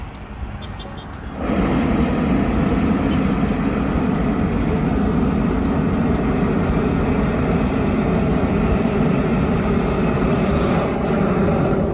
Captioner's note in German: Heißluftballon-Flammengeräusch